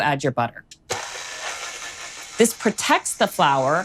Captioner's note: mixer whirring